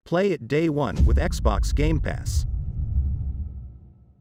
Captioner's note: dramatic sound